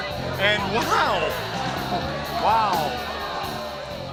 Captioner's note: crowd chatter